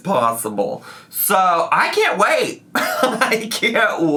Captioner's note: laughs